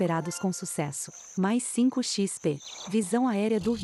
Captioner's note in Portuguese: Pássaros